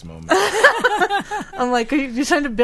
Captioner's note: group laughing